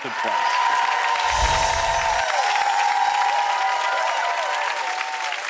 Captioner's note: audience applauds and cheers; soft chiming music